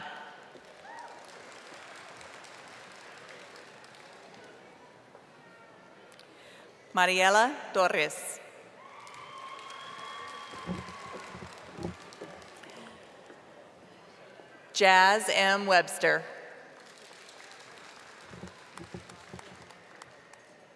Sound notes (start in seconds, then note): 4.0 audience applauding; 13.2 audience applauding and cheering; 20.4 audience applauding